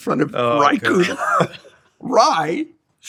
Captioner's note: chuckles